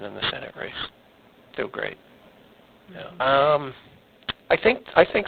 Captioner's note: missing audio